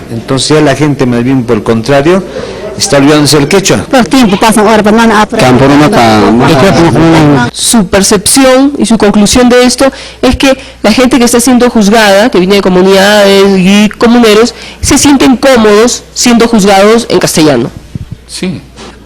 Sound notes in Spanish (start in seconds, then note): 4.1 speaking Quechua